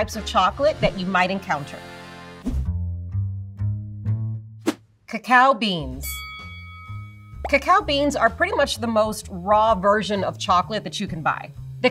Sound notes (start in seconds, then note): 2.4 whimsical music; 6.0 bell dings